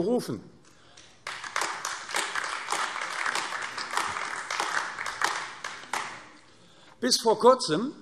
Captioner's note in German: Beifall AfD